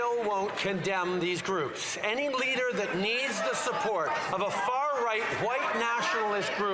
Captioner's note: some Applause